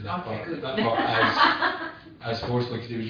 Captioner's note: laughs